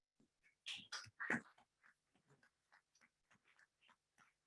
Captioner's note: members clapping